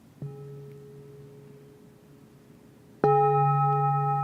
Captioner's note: bell chiming